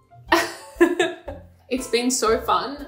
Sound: laughing

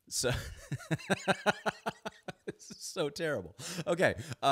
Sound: laughs

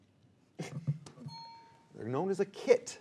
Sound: alarm clock ringing

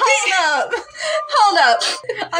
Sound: sniff

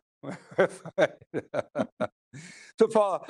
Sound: laughs

